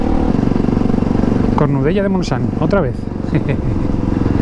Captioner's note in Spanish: risas